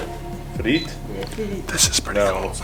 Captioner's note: man speaking Ukrainian